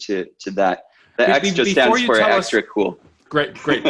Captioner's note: murmurs